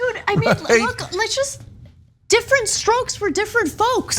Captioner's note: laugh